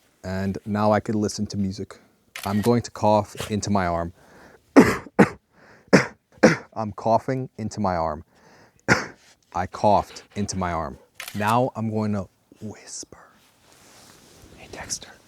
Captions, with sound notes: And now I can listen to music. I'm going to cough into my arm. [COUGHING] I'm coughing into my arm. [COUGHING] I coughed into my arm. Now I'm going to whisper. Hey, Dexter.